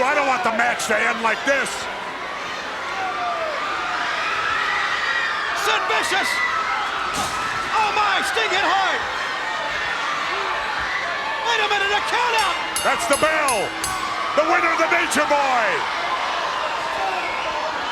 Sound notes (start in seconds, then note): 2.6 crowd cheering; 7.1 Sting thudding into barrier; 10.0 crowd cheering; 12.3 bell chiming; 16.6 crowd cheering